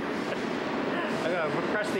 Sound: laughs

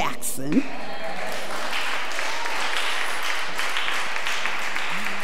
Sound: audience applause

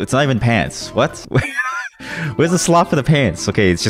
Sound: laughs

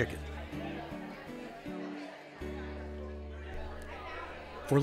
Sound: people chattering

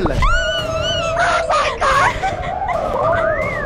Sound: screams

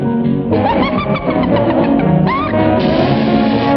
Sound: laughs

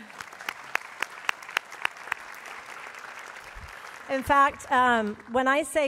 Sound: applause

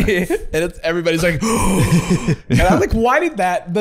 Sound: gasps

